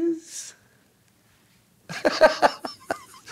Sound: laughing

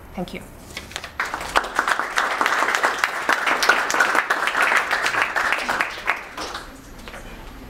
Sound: applause

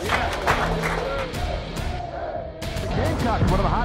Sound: hands clapping; team cheering

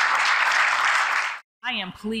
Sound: applause

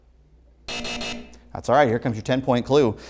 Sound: buzzer sounds

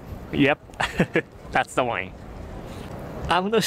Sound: chuckles

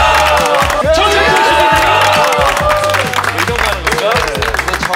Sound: The chefs cheer for Jeong Hyeong-don

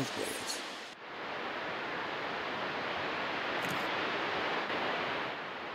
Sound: water falls

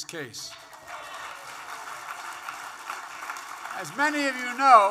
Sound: applause

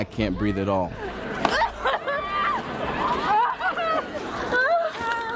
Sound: coughing and screaming

